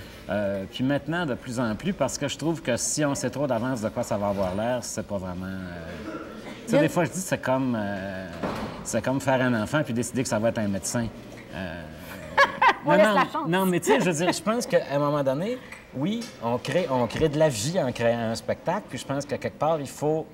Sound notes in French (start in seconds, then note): 12.0 rire